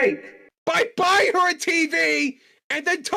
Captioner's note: yelling